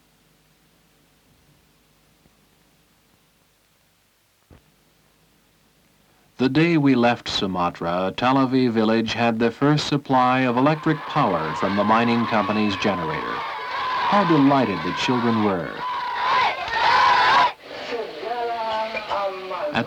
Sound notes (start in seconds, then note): 15.9 laughing and cheering